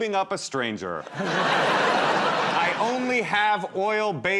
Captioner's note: laughter